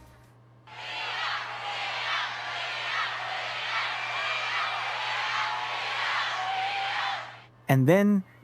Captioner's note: CROWD CHANTING "Lia"